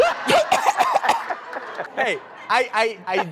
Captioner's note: host sneezes and coughs; laughs